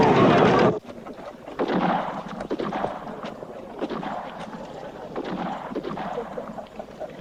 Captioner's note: distant gunshots